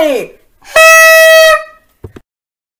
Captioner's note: horn blare